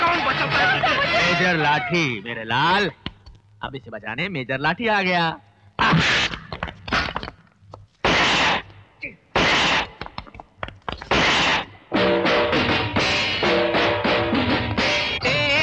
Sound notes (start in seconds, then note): 5.8 thwacking; 8.0 gun Firing; 11.9 voice Over T.V